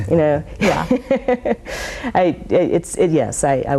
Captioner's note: laughing